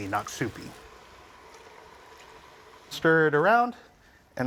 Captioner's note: sizzling softly